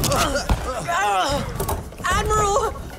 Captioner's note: enrique cries